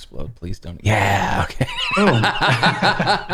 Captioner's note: laughter